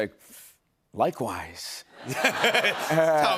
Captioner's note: laughter